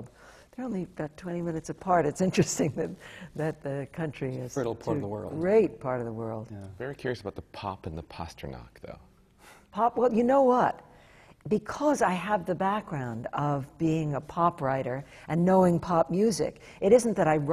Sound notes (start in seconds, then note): none